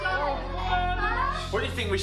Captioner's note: everybody wailing